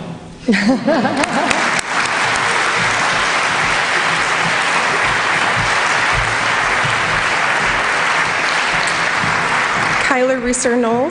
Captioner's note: applause